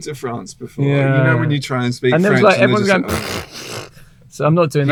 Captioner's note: mimics laughter; mimics deep sigh